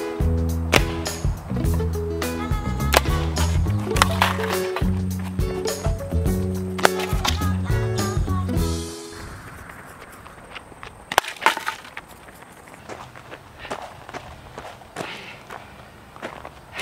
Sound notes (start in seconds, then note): 0.0 thwack; 2.9 thwack; 10.6 thwack; 14.9 heavy breathing